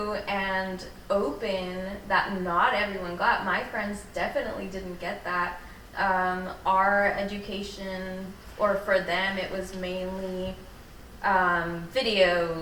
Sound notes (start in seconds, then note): none